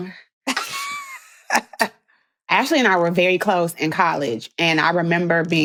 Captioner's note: laughs